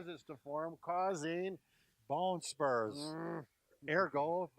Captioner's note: grunts